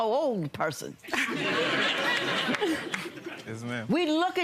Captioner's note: audience laughing